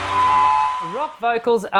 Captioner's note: audience applause; instrumental rock music